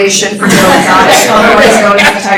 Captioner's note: laughter